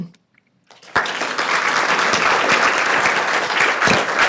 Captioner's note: crowd applause